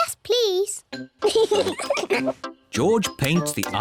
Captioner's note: both giggle